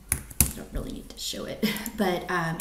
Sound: laughs

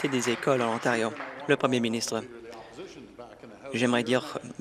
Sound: applause

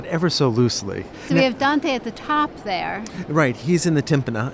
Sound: voiceover

